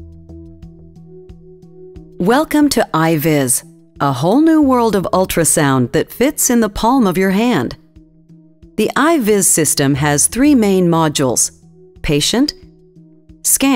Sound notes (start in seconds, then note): 2.5 voiceover